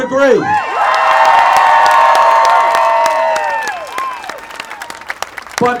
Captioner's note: applause